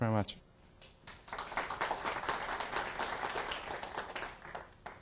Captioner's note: applause